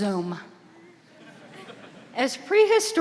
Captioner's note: audience laughing